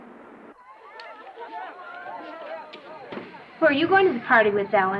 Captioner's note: students talking